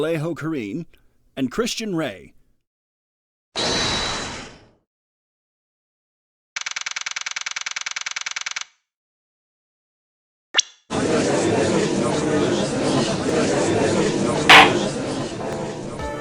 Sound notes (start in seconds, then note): 10.9 gallery chattering; 14.5 gavel slams!